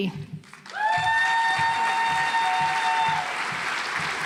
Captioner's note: audience applauds